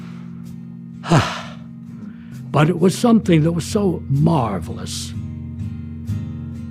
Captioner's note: sighs